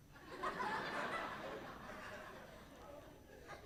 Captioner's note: audience laughs